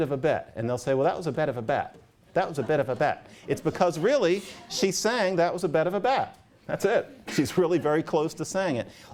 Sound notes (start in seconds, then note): 2.4 laughter